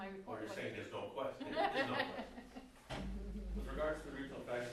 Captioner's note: background laughter